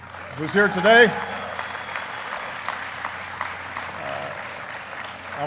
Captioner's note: applauding